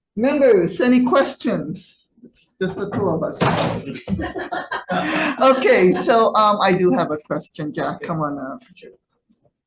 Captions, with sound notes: Members, any questions? It's just the two of us. (audience laughing) Okay, so I do have a question, Jack, come on up.